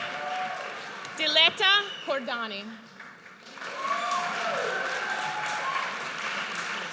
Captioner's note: audience cheers